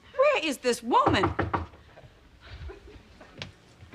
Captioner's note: knocking on door